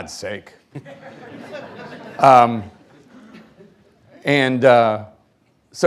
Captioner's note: audience members laughing